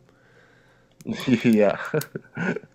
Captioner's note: laughs